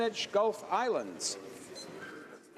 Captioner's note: speaking in french